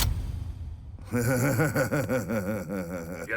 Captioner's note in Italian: sghignazza